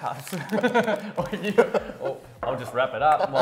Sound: laughing

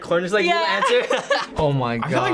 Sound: laughs

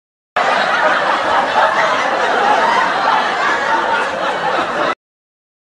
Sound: intense laughter

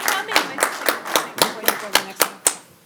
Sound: applause

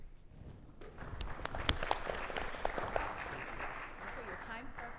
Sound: audience applauds

